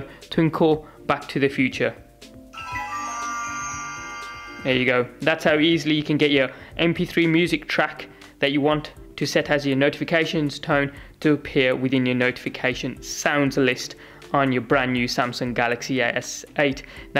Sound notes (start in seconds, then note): 2.5 Back to the Future Twinkle chimes